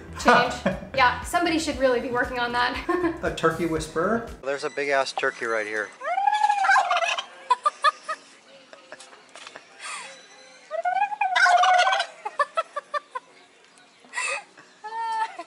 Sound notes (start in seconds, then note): 5.8 laughter; 5.9 making turkey sounds and turkey gobbling in response; 10.5 laughter; 10.7 making turkey sounds and turkey gobbling in response